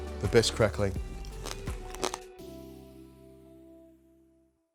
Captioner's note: crackling sound